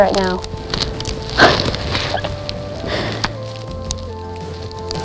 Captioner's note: giggling, soft music; soft music, sound of photos